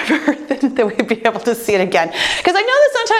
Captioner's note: chuckles